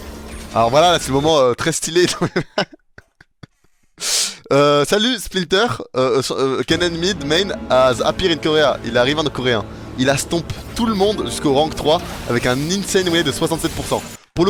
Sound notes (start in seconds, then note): 2.2 laugh